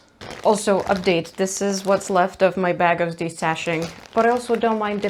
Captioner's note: ziplock crinkles